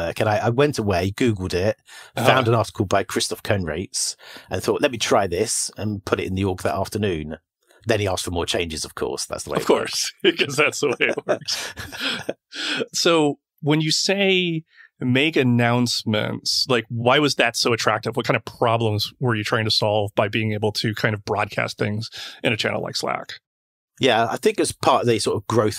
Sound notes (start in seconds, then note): 9.5 laughs